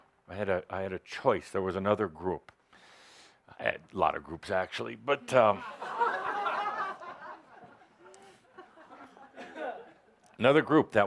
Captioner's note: laughter